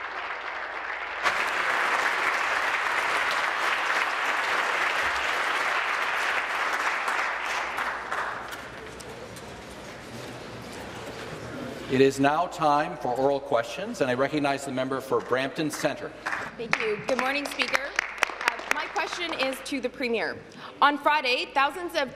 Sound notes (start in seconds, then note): 4.0 applause